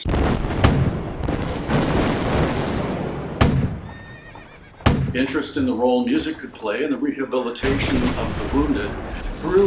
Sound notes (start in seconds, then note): 0.0 cannon fires; 1.5 explosions; 2.9 gunfire; 3.8 horse neighs in alarm